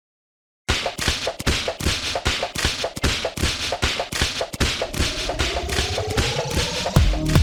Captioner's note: whip sounds